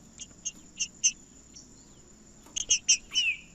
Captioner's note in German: trinca ferro cantando